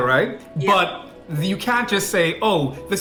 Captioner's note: foreign